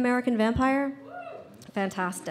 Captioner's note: audience cheers